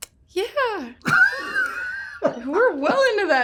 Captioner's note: laughs